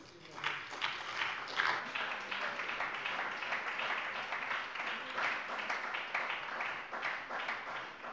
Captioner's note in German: Beifall bei der SPD